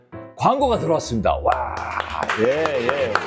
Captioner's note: clap Clap Clap